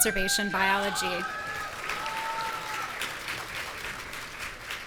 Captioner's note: audience cheering